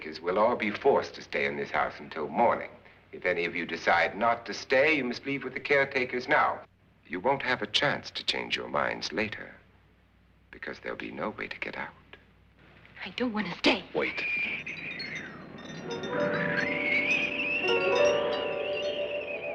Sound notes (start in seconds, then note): 13.7 wind blowing